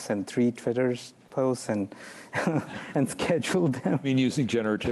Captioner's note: chuckles